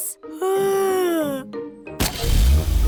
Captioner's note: yawns